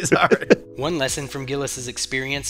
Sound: laughter

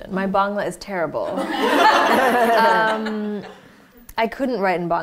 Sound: laughter

